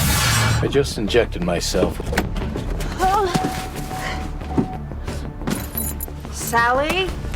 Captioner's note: Sally groans